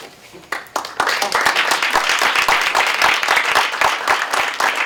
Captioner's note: applause